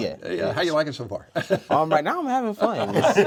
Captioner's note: laughs; all laugh